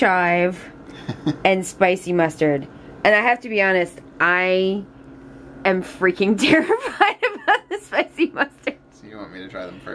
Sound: laughs

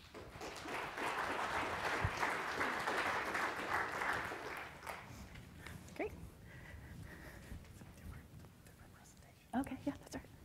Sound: audience applause

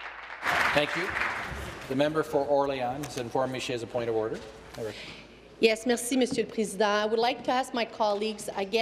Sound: some Applause

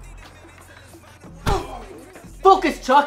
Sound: Eva grunting

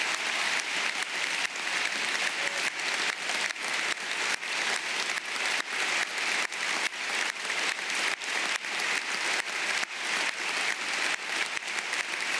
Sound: applause

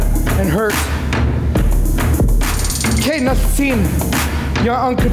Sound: foreign speaking

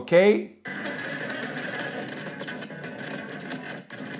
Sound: sound effects

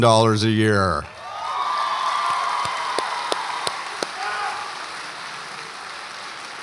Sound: audience applauds and cheers

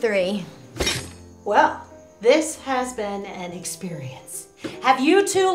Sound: plate clatters

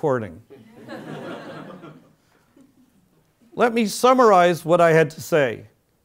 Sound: laugh

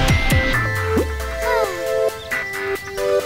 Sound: sighing

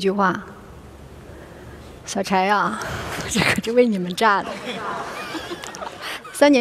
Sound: laughter

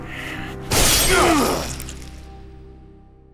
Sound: groans

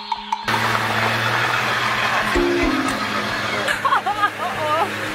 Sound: car engine roars; both laughs loudly

